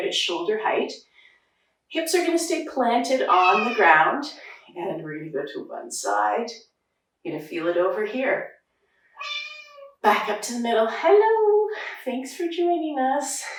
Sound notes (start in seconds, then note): 9.2 cat meowing